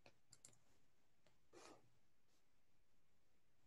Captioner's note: mouse clicking